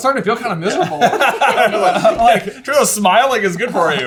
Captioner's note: laughing